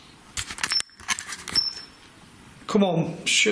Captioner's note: beeping